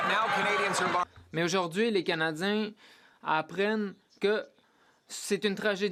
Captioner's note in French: voix de l'interprète